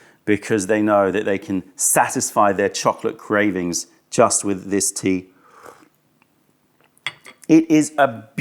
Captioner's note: sips tea